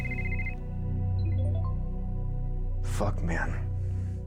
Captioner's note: cell phone chiming